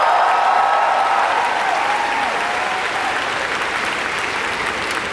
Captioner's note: the audience cheered for her